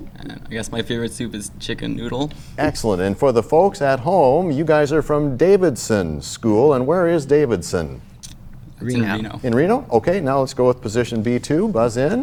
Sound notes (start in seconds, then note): 8.9 sound of a buzzer